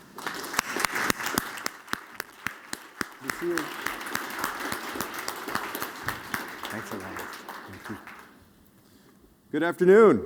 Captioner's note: applause